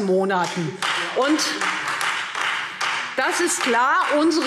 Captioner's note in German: Beifall Freie Demokraten und vereinzelt SPD